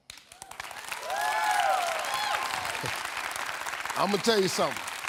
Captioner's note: audience applauding; audience cheering